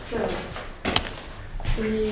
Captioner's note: click